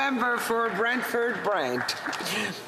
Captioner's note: speaking French